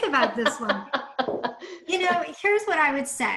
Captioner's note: laughs